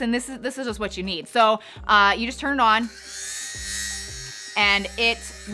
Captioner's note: lint removal tool whirs